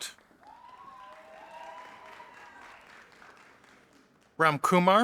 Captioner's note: audience applauding